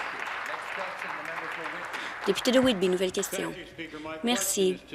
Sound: applause

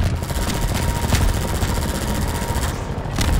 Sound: gunfire

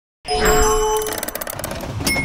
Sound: bell dinging; bright music; gears churning

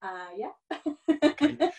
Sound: laughing

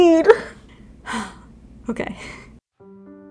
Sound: sighs

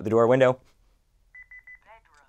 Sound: beeping

